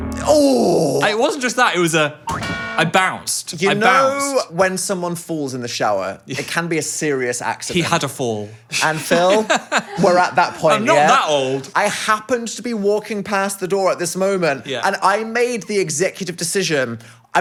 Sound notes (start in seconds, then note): 0.1 vocalizing slipping; 2.2 spring bouncing